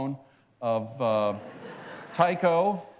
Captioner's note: laughter